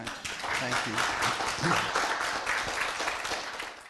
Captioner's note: applause